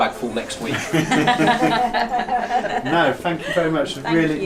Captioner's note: all laugh